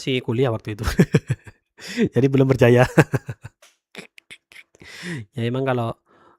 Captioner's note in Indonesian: tertawa